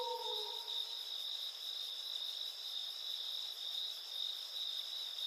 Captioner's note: crickets chirping